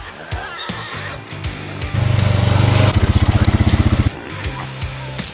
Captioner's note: massive sounder of wild boars at corn feeder